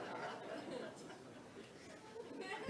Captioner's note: audience laughs